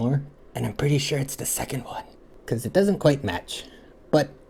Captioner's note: whisper